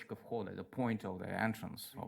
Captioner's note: speaks in Russian